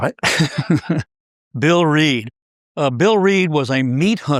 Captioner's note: laugh